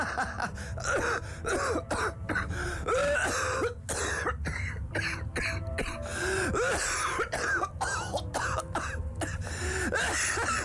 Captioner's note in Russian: смех сменяется тяжёлым кашлем